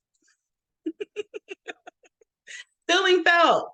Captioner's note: laughing